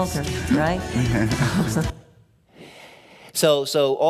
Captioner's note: chuckling